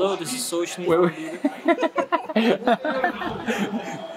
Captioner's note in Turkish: gülüşmeler